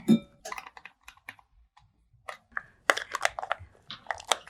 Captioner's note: fingers tapping